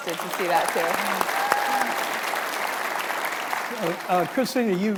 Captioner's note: audience applauding